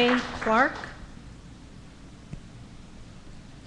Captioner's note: applause